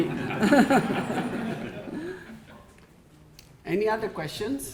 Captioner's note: audience laughing